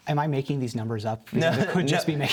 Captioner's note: laughter